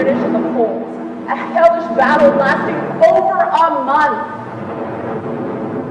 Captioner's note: heavy aircraft sounds, gunfire